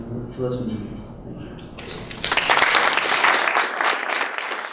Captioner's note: applause